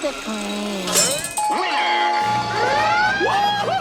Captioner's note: automated Voice; squidward cheers